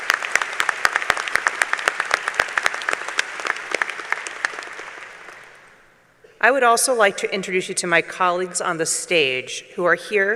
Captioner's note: applause